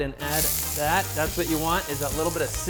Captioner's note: pan sizzle